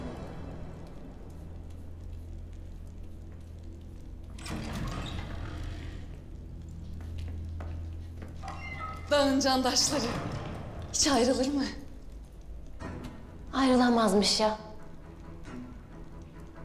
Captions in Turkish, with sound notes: [Kapı açılma sesi] [Adım ve kapı kapanma sesleri] Dağ'ın candaşları... ...hiç ayrılır mı? Ayrılamazmış ya.